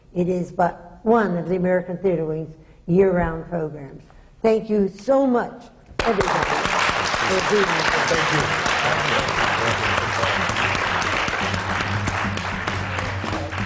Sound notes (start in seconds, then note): 8.7 applause